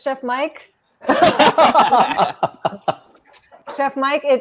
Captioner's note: laughing